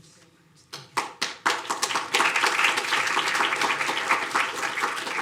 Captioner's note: audience applauding